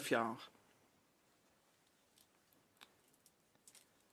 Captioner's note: speaking french